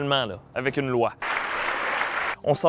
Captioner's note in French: applaudissements